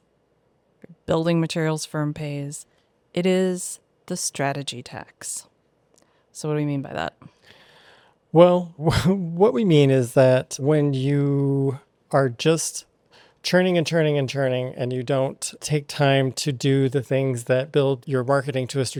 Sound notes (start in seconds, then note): 8.8 chuckles